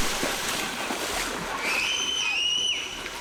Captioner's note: screaming